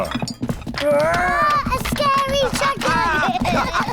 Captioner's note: growls; both laugh